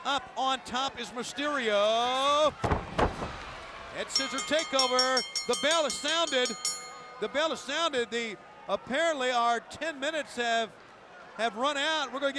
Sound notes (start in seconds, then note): 1.7 wrestlers thudding; 4.0 bell dinging